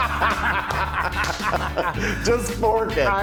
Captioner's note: laugh